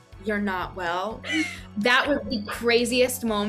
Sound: laughing

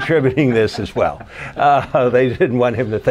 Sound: laughter

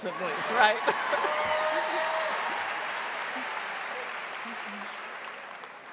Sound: audience cheering and applauding

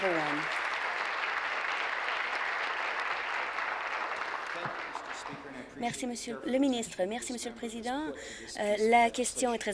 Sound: applause

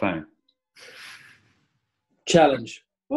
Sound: sniggering

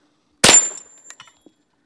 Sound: bang

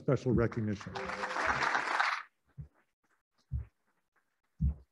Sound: applauding

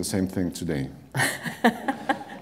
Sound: laughter

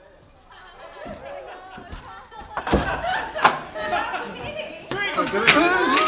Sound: laughter

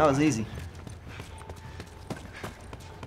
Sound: Joel pants

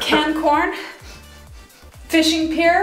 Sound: sniffing

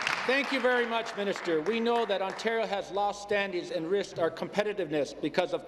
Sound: applause

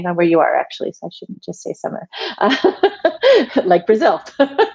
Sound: laughs

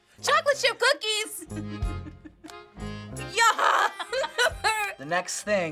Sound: laughs

